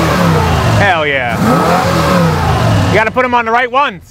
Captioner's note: car revs